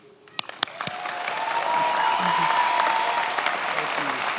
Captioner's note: many applauding